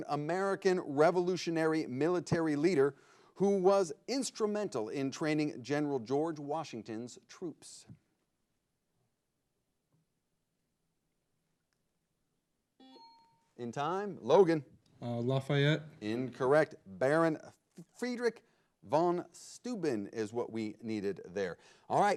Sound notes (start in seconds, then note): 12.8 buzzer blares